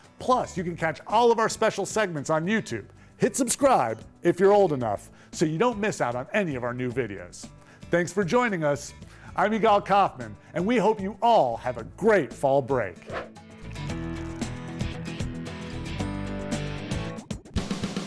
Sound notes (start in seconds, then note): 13.0 screen whooshing; 15.2 upbeat music